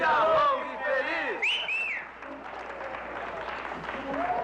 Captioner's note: whistles